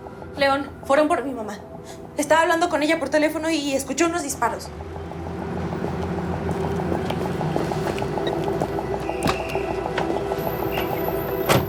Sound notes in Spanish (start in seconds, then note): 8.4 Sonido al abrir y cerrar la puerta